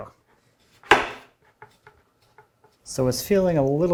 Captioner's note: wood on wood clacking